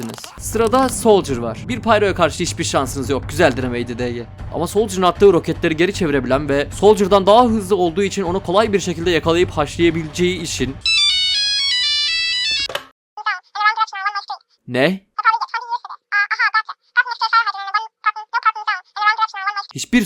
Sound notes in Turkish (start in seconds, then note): 10.8 telefon çaliyor; 15.2 Telefonla konuşuyor